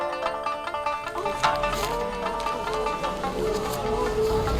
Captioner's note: villagers gasps